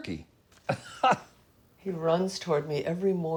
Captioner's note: laughing